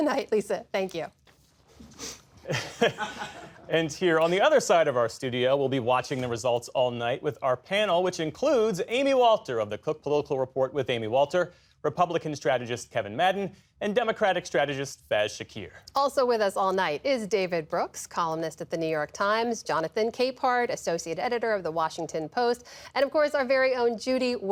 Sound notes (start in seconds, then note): 2.4 laughter